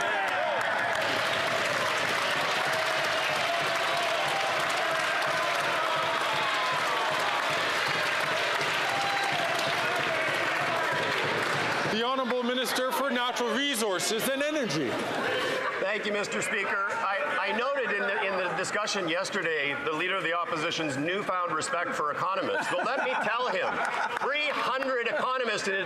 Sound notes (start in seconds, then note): 4.4 some Applause